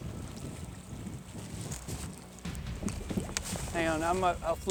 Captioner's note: water burbling